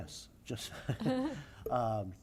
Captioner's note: laughter